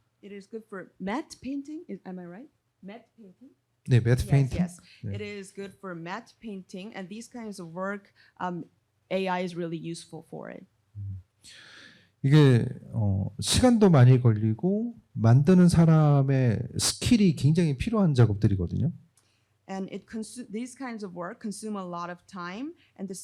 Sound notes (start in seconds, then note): 4.0 speaking korean; 12.2 speaking korean